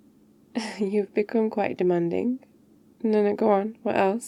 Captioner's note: laughs